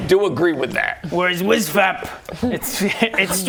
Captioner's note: repressed laughter